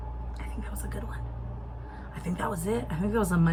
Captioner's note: whispers